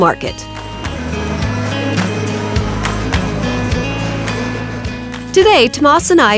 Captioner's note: bright music continues; indistinct chatter